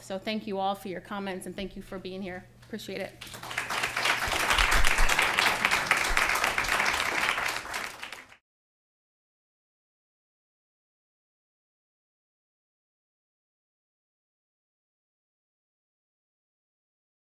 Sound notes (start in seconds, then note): 3.2 applause